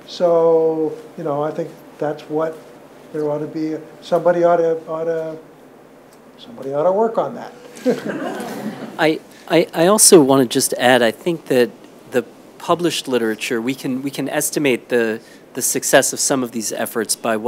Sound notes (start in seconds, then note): 7.7 audience laughs